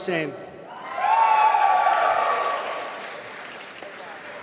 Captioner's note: applause